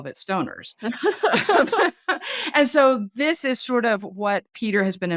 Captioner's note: laughing